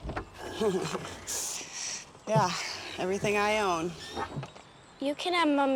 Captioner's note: laughs